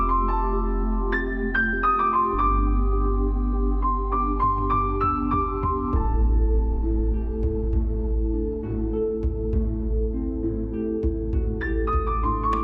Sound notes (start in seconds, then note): none